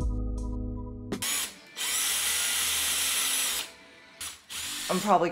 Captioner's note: drill sounds